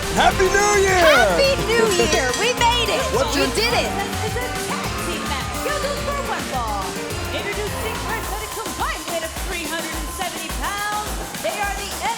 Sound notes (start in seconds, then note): 2.8 bell ringing